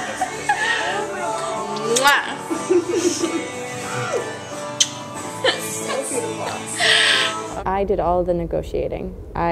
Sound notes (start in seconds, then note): 1.8 kissing sounds